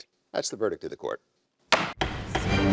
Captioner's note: gavel bangs